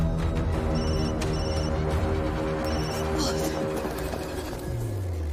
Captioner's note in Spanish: Suena el celular